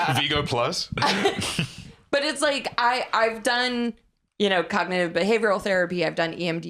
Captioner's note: laughs